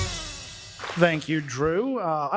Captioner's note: applause